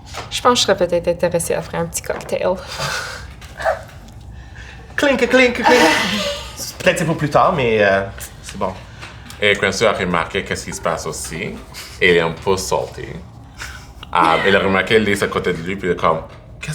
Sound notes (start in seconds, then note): 4.8 clinking of bottles